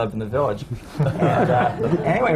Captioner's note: laughter